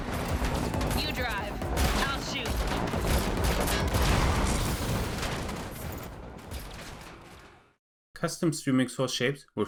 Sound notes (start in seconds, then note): 3.5 gunfire